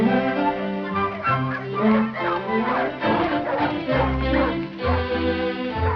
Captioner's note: dogs barking